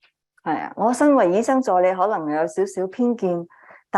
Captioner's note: speaking chinese